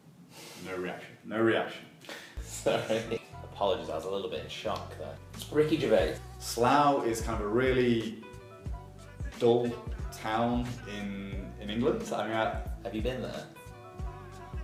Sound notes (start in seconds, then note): 2.4 laughing